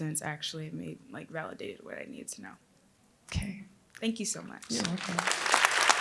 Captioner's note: applause